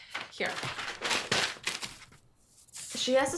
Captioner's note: pages rustle